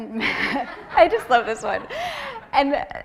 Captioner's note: laughter